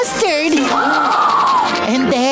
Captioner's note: gasping